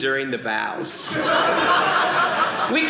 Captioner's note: audience laughing